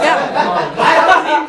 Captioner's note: laughing